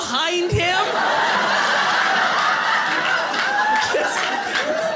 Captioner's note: audience laughing